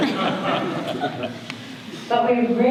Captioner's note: audience laughter